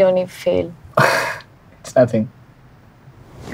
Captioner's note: Chuckles